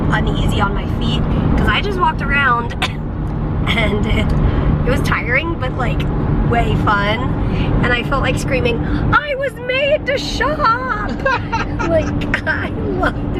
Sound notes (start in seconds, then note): 11.0 laughter